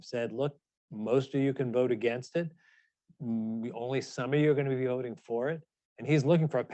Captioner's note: none